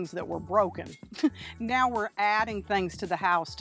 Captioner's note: chuckles